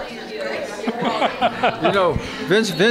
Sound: laughs

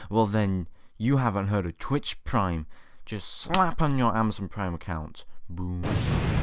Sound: boooooom

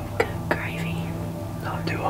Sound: whispering

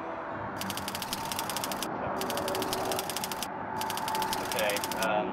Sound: typewriter clicking

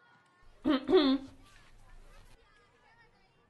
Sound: teacher clears throat

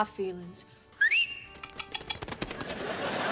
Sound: whistling

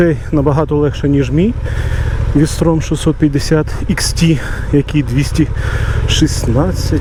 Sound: motorcycle

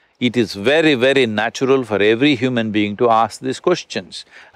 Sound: none

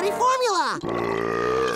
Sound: belching

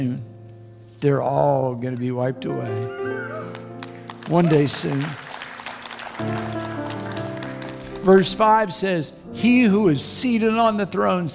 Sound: crowd Cheers

